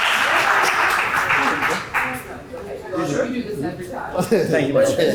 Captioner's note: applause